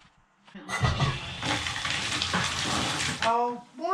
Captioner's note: water running